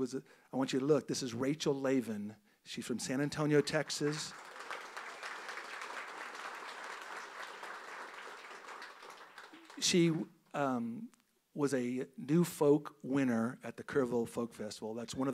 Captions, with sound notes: He was, I want you to look this is Rachel Laven. She's from San Antonio Texas. (audience applauds) She was a New Folk winner at the Kerrville Folk Festival.